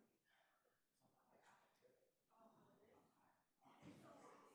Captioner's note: group chattering